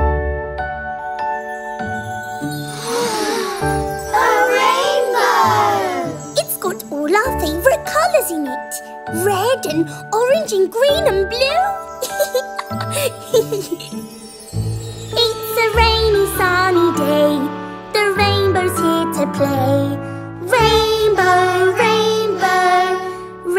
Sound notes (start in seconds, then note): 3.1 gasps; 12.0 laughing; 14.8 singing